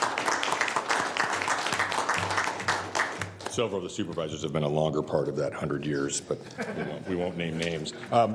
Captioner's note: applause